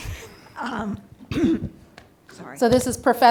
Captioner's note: chuckles; clears throat